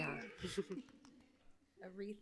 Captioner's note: chuckles